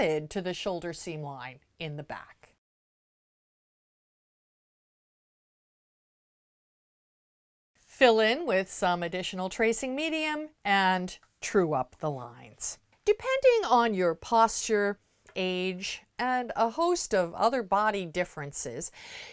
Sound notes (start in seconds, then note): 2.5 no Sound Present